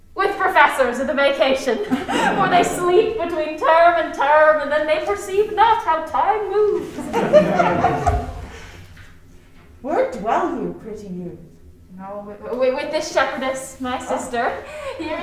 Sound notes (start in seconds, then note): 6.6 crowd laughing